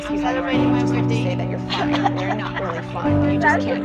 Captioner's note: cough because of cold air breeze